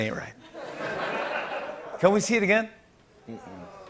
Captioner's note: laughter